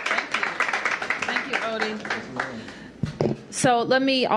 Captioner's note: applause